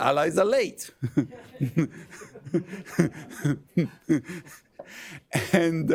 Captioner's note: laughter